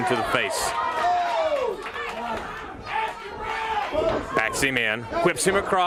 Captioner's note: crowd chatter